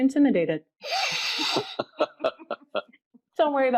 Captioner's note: laughing